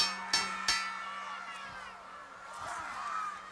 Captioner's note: bell ringing